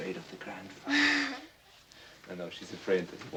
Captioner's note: Klara laughing